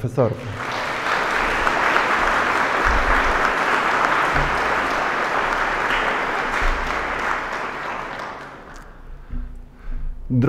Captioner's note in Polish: oklaski